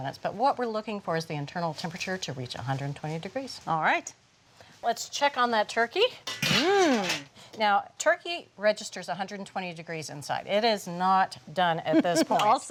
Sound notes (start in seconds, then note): 6.2 lid clangs